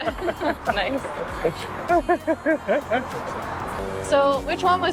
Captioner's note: laughter